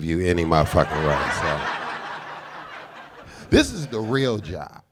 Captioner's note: audience laughing